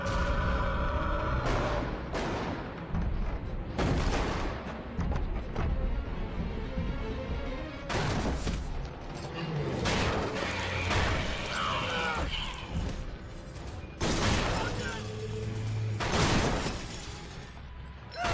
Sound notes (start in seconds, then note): 12.0 gunshots